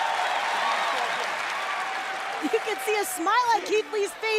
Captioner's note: crowd chattering